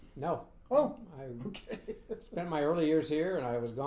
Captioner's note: laughing